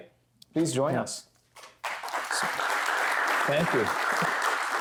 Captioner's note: applause